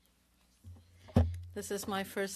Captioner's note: speaking French